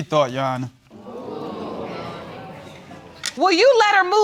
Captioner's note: audience murmuring